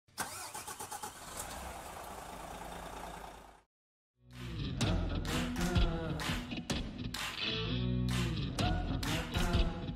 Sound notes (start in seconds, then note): 0.2 engine revving; 4.3 upbeat music